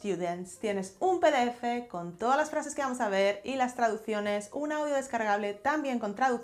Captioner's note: Spanish